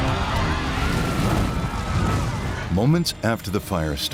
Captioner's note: passengers screaming; sinister music; engine explodes